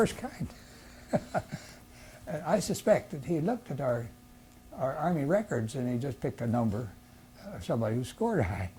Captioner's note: laughs